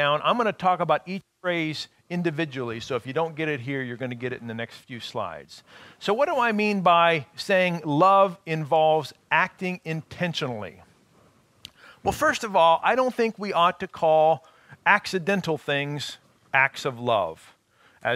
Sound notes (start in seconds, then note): none